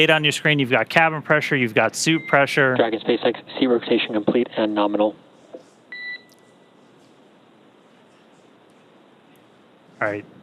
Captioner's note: beep